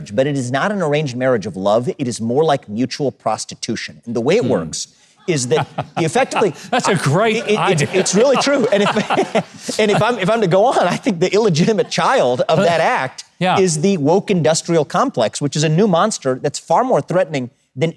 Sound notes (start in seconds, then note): 5.2 laughs; 5.3 audience laughs; 8.5 laughs; 8.8 audience continues laughing; 10.3 laughs